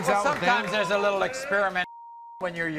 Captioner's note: beep